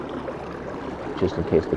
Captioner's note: water burbling